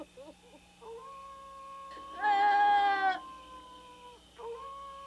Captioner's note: coyote howling; Claudie wailing